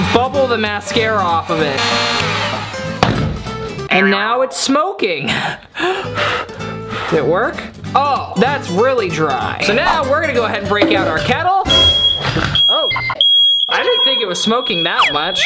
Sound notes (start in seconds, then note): 6.1 air blowing sounds; 11.6 fire alarm beeping